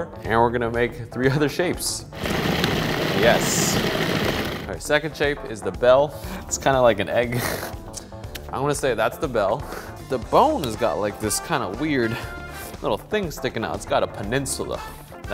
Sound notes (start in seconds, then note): 2.1 mixer whirring